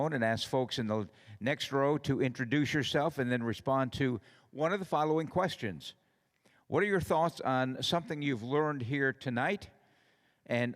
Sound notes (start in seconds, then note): none